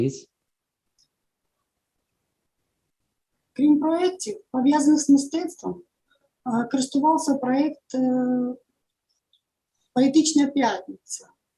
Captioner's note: foreign Language